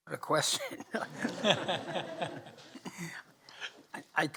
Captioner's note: chuckling